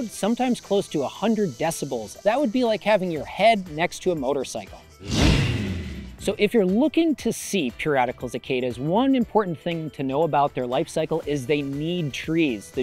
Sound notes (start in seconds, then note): 5.2 motorcycle revving